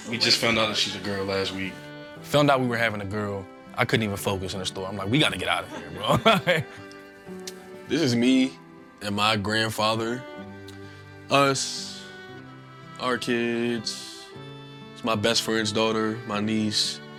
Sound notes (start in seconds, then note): 5.4 laughs